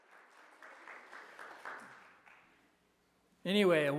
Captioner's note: applause